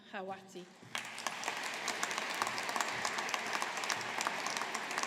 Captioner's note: audience applauding